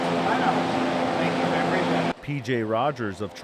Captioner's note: fan blowing